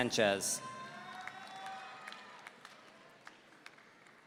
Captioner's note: audience cheering